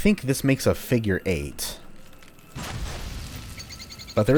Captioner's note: fwoosh